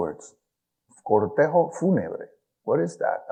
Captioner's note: speaks in foreign language